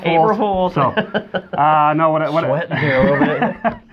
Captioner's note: laughing